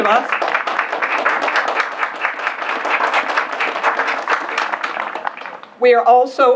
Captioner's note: applause